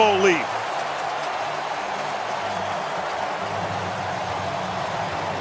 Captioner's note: cheering